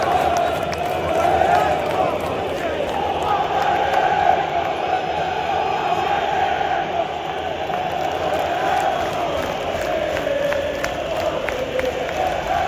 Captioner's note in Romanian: Aplauze